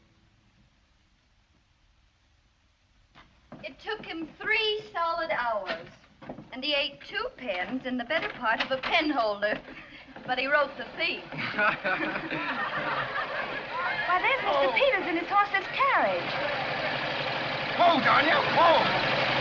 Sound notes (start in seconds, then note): 10.9 laughs